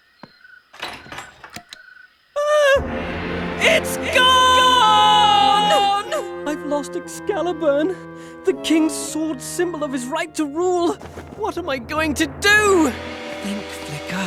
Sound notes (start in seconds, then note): 2.4 screaming